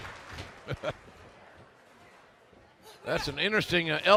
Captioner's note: laughter